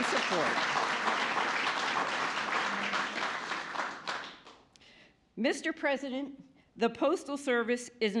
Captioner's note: applause